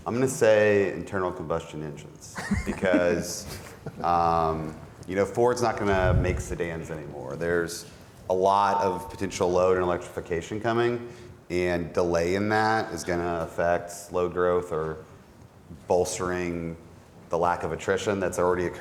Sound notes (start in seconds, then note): 2.4 laughs